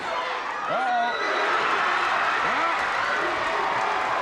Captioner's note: audience cheers